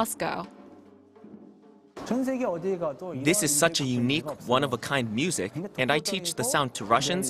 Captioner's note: Korean